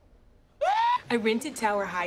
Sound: ABED screams

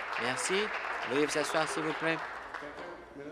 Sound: applause

